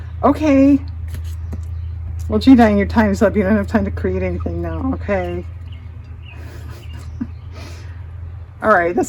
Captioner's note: laughs